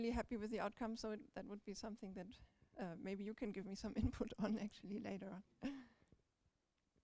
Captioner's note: chuckles